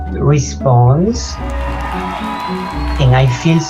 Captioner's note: audience applauding